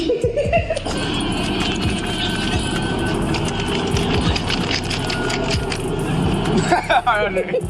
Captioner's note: laughing; money flapping; laughing